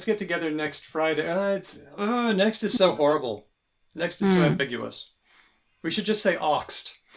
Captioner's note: groans